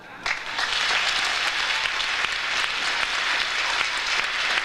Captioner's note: audience applauds